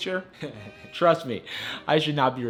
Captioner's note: laughs